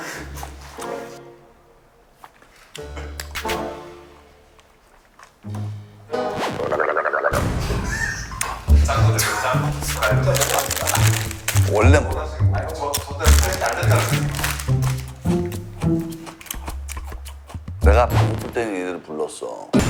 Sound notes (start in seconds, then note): 6.6 gargles